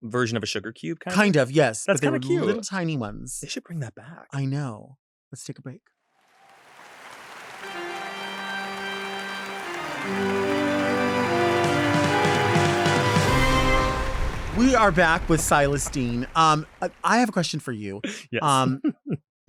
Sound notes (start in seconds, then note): 7.5 audience applauds; 10.4 spooky music